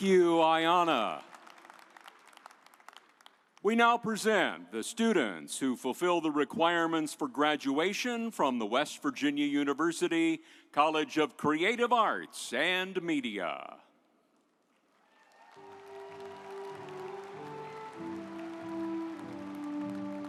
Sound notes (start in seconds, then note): 14.9 audience applauds; 17.1 triumphant music